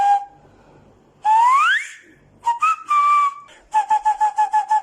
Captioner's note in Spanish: Silbidos; Silbidos con un puro en la mano